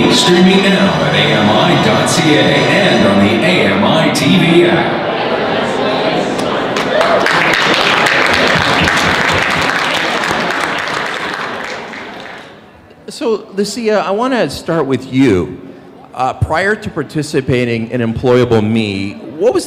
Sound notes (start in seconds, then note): 6.7 applause